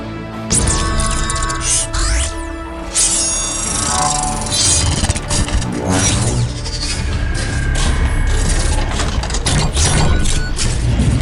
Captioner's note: mechanical sounds